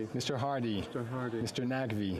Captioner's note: speaking French